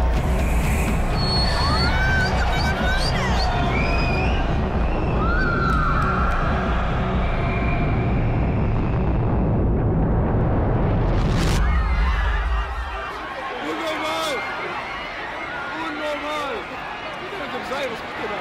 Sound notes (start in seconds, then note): 3.4 cheers; 10.3 overlapping shouting